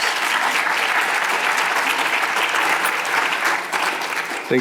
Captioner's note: audience applause